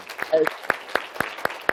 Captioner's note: applause